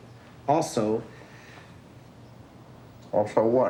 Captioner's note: inhales